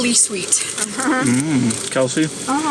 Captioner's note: laughs